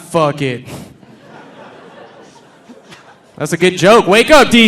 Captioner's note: audience laughing